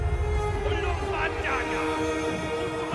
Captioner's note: shouts in foreign language